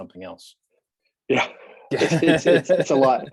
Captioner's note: laughs